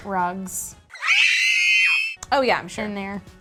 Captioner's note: screams